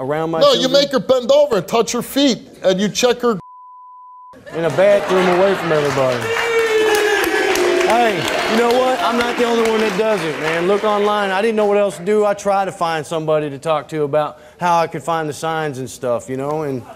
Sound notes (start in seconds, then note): 3.4 beep; 6.1 audience applauding